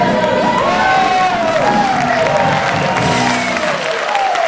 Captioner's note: audience applauds